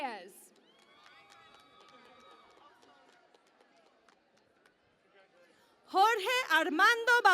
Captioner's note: cheering and Applause